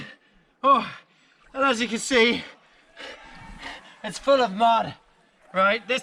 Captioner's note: breathless